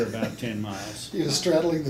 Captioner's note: laughs